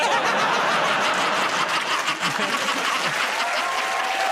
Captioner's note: laughter; cheers and applause